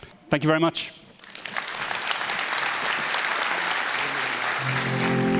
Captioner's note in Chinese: 鼓掌